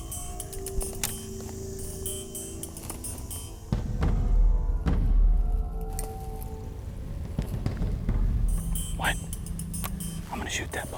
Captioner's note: whispering